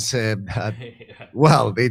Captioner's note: laughs